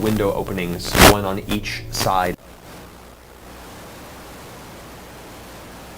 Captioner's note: static